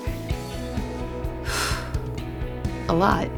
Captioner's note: exhausted Exhale